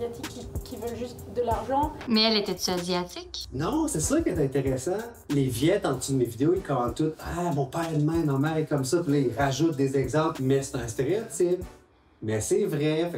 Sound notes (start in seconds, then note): none